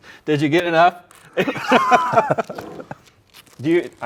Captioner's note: both laughing